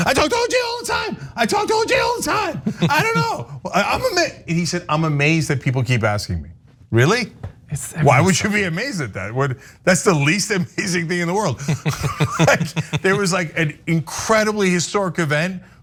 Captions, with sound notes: I talk to OJ all time. I don't know. I'm amazed. He said, I'm amazed that people keep asking me, really? Why would you be amazed at that? That's the least amazing thing in the world. [LAUGH] >> There was like an incredibly historic event where